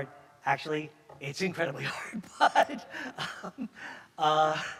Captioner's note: chuckles